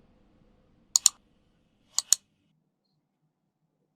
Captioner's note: mouse clicking